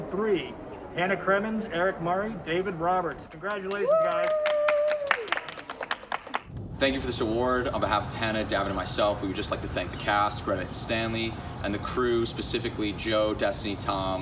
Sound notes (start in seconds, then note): 7.2 applauding